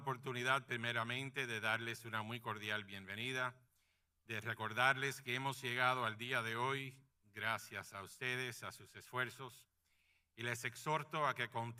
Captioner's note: speaking in Spanish